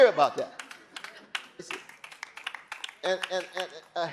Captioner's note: audience applauding